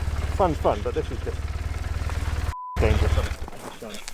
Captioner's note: beep